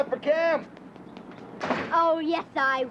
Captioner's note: door closing